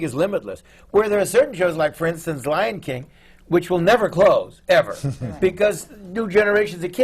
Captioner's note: laughter